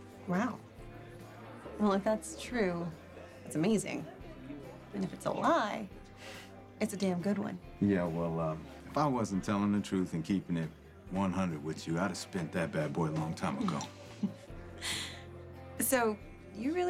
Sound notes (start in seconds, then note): 13.6 chuckles